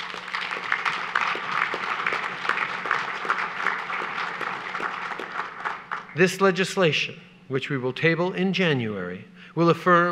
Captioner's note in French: Applaudissements